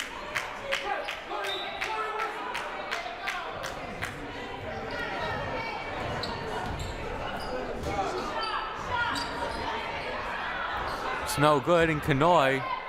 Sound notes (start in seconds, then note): 0.1 crowd applauding; 3.6 crowd murmuring